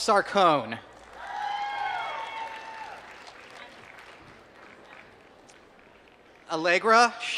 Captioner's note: applause